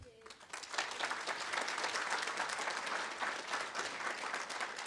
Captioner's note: audience applauding